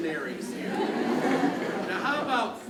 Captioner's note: crowd laughs